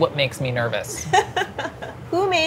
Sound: laughs

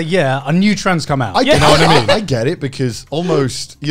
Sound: laughing

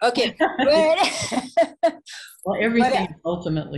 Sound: both laughing

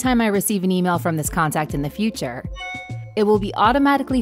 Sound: bell chiming

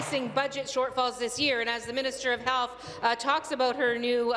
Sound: applause

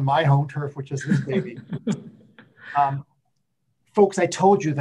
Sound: laughs

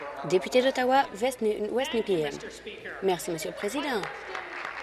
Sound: applause

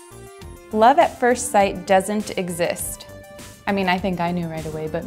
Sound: voiceover

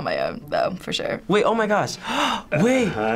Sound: gasping

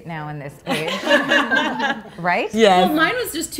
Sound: laughing

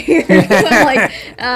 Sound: laughing

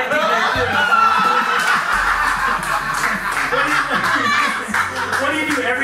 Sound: laughs

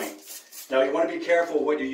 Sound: bottle spritzing

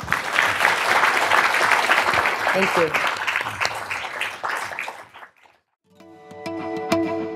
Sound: applause

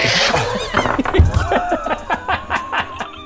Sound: giggles like late-30's teenagers

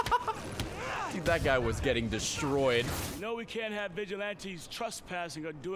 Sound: laughs

